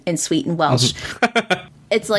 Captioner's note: laughs